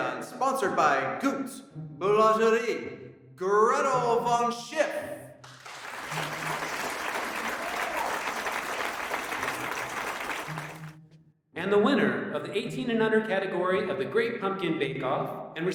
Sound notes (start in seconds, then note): 5.4 audience clapping